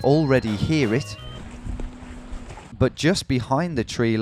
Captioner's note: cows mooing